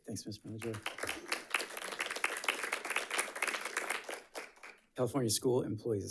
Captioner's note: audience clapping